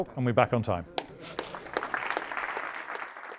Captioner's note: applause